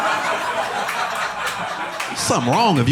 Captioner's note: audience laughing